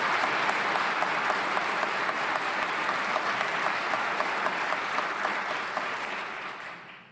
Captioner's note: applause